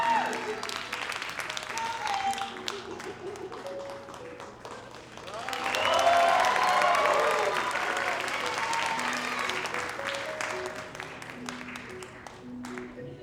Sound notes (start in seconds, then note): 0.2 soft music continues; 5.5 audience applauding